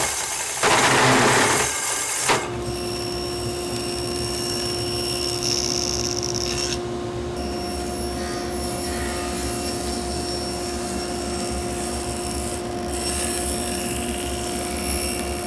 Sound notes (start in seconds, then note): 2.7 saw whirring; 7.4 saw whirring